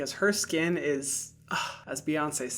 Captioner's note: sighs